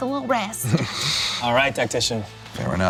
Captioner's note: laughs